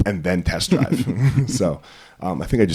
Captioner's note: laughing